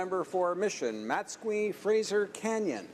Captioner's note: speaking in french